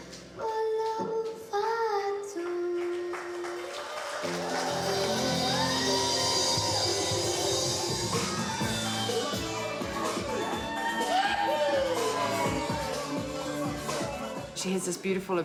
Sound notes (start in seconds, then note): 3.7 cheering, applause